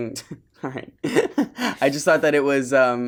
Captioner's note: laughs